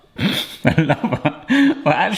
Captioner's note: laughing